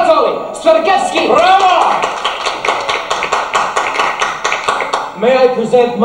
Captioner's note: applause